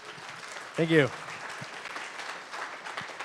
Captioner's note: applause